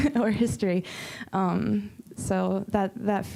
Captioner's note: chuckling